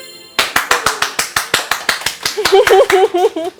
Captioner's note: clapping; laugh